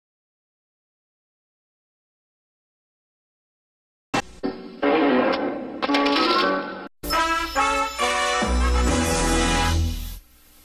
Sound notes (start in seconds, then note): 0.0 silence; 5.9 music playing as rocks crumble; 7.0 majestic fanfare plays